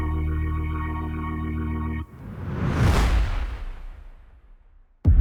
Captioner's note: heavyhearted music continues; air whooshes